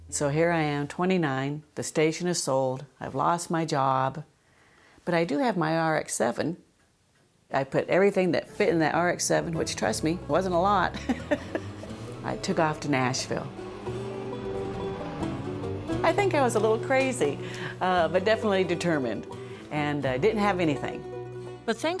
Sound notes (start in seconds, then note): 10.9 laughter; 13.8 car engine accelerating